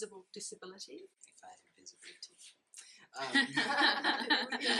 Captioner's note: laughing